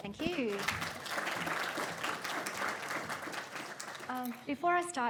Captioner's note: crowd applauding